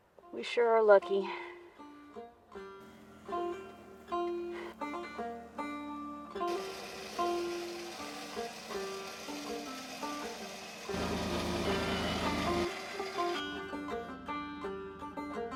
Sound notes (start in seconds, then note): 1.7 mellow banjo music; 8.1 ATV winch whirring; 12.3 mellow banjo music